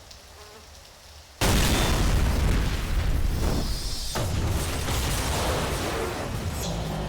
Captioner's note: audible Explosion and Debris Falling